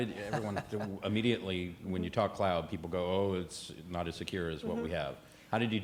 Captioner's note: laughter